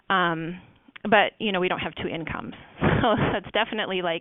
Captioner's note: laughs